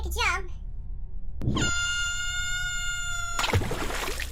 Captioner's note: scream